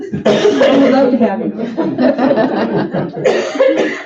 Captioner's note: laughing